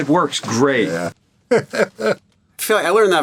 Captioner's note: laughs